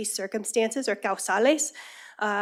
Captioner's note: speaking spanish